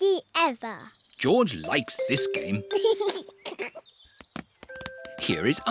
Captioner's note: giggles